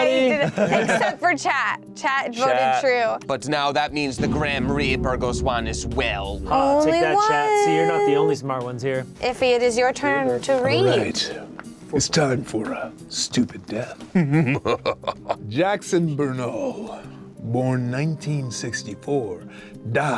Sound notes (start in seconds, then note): 14.1 sinister laugh